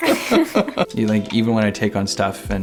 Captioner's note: laughs